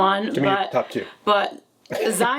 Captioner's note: laughs